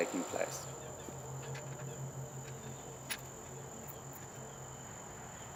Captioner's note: metal clanking softly